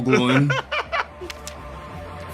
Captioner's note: laugh